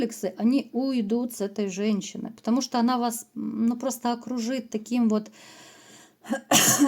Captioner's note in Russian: кашель; откашливается